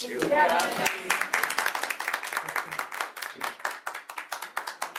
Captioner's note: group applauds